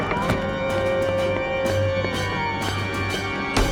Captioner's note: wolf howling in the distance